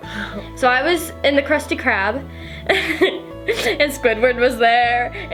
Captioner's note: laughs